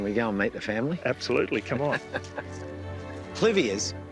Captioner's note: chuckles